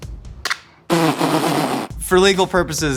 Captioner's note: blows raspberry